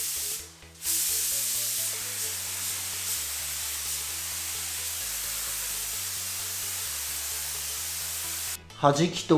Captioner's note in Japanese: 塗装音